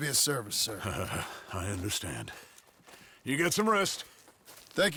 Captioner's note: chuckles